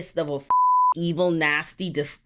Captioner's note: beep